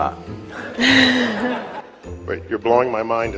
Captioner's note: audience laugh